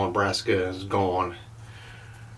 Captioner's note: none